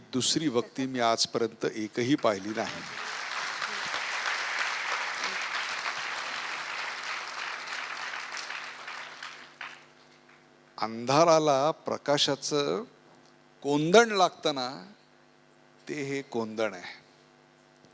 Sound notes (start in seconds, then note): 4.1 audience applauds